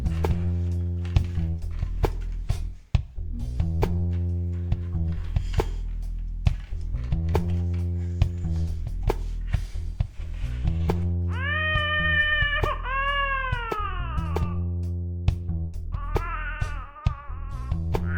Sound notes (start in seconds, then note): 11.5 adam crying